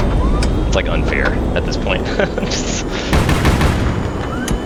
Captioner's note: laughs